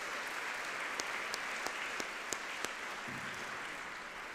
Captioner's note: audience clapping